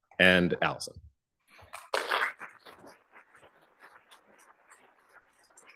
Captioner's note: applause